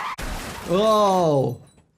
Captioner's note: car crashes